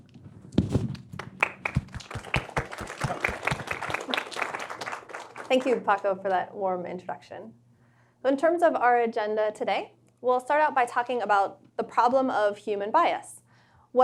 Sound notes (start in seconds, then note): 1.1 applause